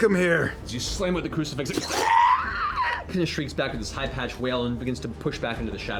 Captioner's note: shrieks